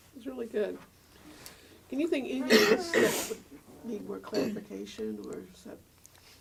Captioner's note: cough